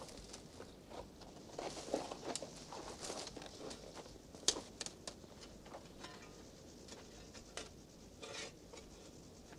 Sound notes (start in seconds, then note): 3.0 rustle